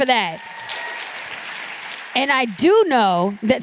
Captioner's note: applause